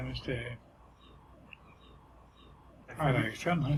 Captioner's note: silence